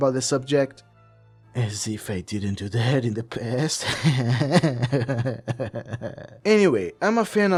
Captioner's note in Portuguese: risos nervosos